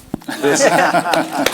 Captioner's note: laugh; applause